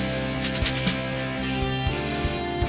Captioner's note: rhythmic clicking